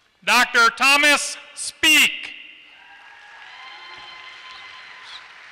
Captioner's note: applause